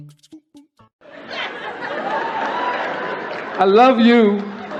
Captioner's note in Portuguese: O público está rindo e gritando; o convidado está quase chorando enquanto o público continua rindo e gritando